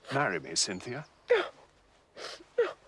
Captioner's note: sniffles